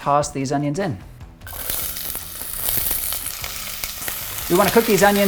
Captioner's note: onions sizzle